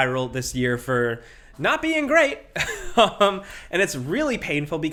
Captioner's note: laughs